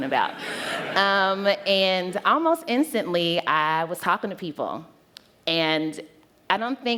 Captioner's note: laughter